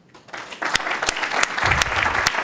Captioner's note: applause